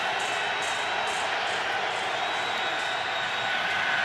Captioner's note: crowd cheering